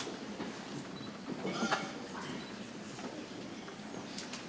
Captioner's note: people chattering softly